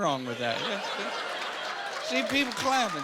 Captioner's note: applauding